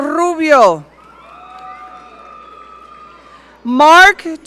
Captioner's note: audience cheering